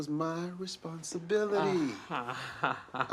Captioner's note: laughs